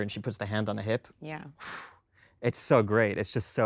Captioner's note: Jesse exhales